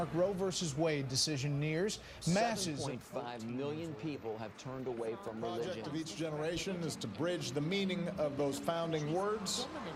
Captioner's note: news chatter